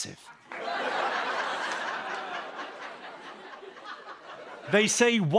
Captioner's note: laughter